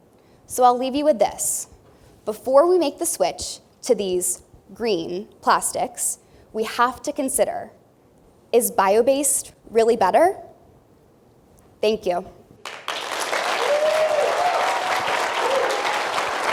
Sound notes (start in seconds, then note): 12.6 applause